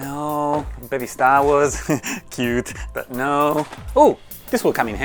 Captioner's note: giggles